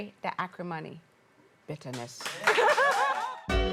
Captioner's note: crowd Cheering